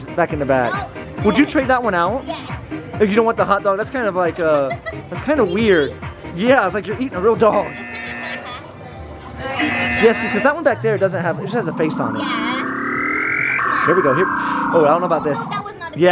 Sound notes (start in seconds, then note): 7.5 laughing; 13.4 machine beeping